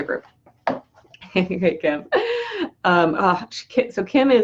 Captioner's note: laughs